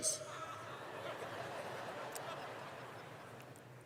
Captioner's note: laughter